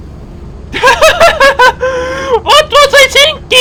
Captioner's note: laughter